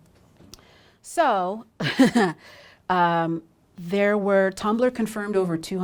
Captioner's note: chuckles